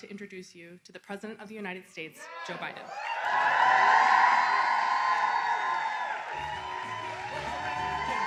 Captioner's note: cheering